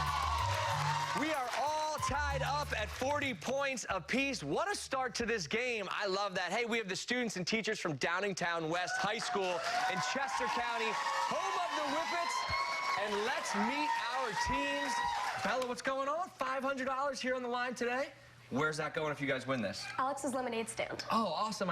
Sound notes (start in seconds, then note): 3.5 cheers